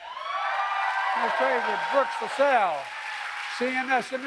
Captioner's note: applause